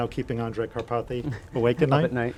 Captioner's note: chuckles